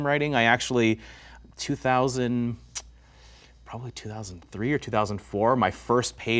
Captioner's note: smacks